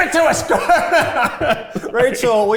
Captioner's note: everyone laughs